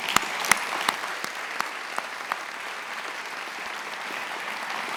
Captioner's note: attendees applauding